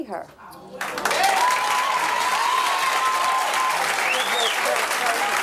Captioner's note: audience applauds